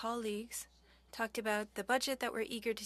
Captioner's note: speaking French